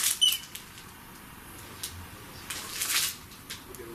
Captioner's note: beep; squeaking